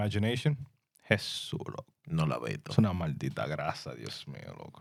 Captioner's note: speaking In Spanish